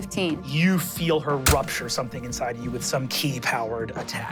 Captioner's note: none